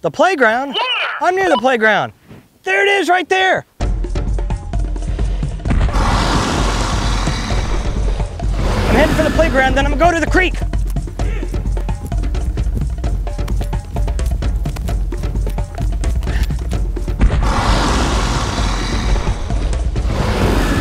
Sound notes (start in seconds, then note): 5.8 dinosaur loudly roaring; 17.3 dinosaur roaring